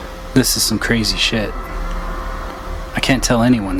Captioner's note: Mr. X VOICEOVER